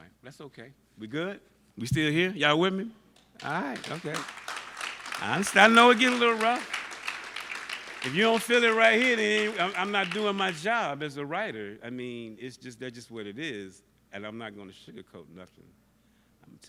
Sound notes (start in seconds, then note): 4.4 applause